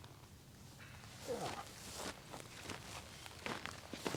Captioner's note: grunts